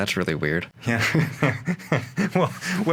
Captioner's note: laughing